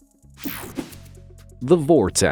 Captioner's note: whooshing